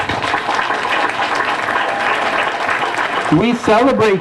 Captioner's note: applause